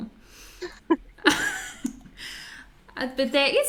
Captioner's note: laughs